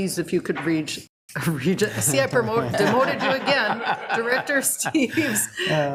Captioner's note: laughs